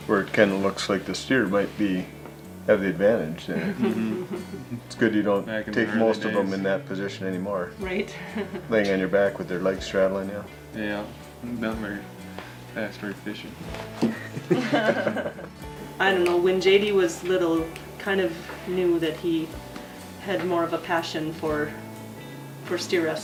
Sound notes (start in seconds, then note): 14.1 laughing